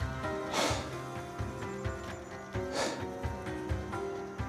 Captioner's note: panting